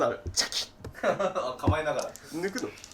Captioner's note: laughing